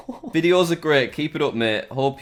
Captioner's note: laughs